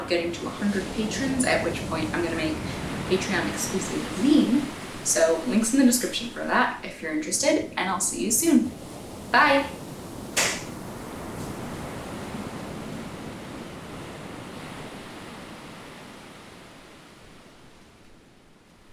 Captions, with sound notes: of getting to a hundred patrons, at which point I'm gonna make a Patreon-exclusive zine, so link's in the description for that if you're interested, and I'll see you soon. Bye. (hands clap) (waves whooshing)